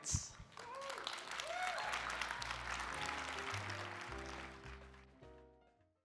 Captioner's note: audience applauding; jazz music